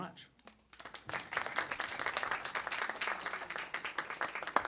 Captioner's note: audience clapping